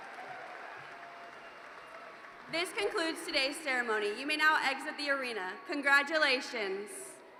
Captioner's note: cheers and Applause